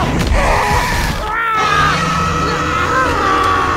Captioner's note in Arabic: رجل يصرخ; العقرب يزأر